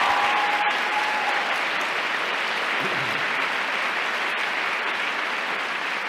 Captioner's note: applause